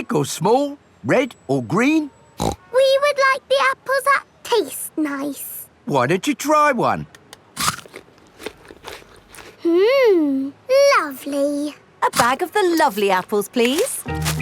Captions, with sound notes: Big or small? Red or green? (SNORTS) We would like the apples that taste nice. Why don't you try one? (CRUNCHES) Hmm, lovely! A bag of the lovely apples, please.